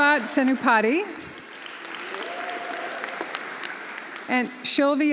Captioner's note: audience applauding; audience cheering